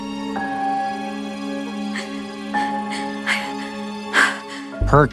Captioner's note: Bronte sobbing